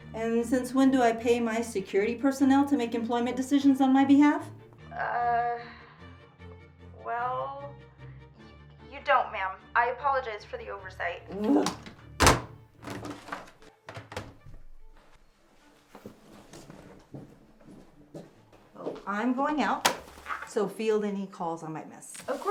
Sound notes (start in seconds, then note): 11.5 Mrs, Macaw grunting; 15.6 footsteps padding